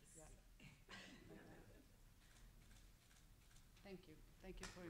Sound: laughing

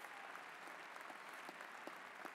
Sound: applause

